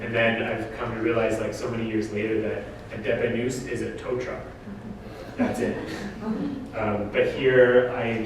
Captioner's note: audience: Laughter